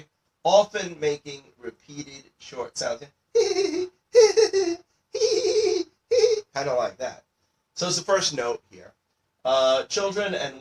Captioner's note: giggling